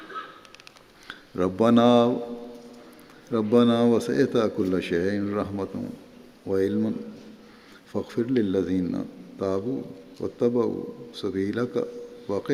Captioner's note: Arabic